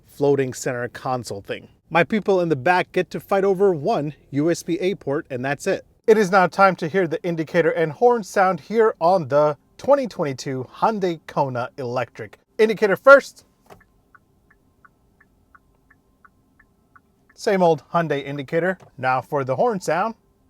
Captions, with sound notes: floating center console thing. My people in the back get to fight over one USB-A port and that's it. It is now time to hear the indicator and horn sound here on the 2022 Hyundai Kona Electric. Indicator, first. (indicator ticking) Same old Hyundai indicator. Now for the horn sound.